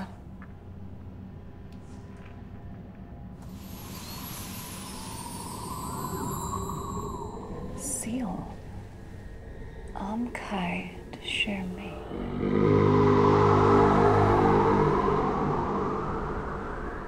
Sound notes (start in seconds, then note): 3.0 wind howling; 8.9 speaking foreign language; 11.4 wind howling; 11.6 dramatic groaning